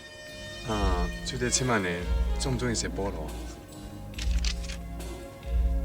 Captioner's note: speaking in Cantonese